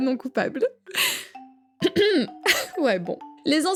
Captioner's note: clears throat